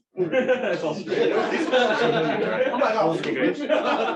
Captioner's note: laughter